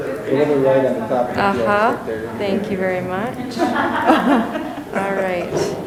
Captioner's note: laughing; chuckles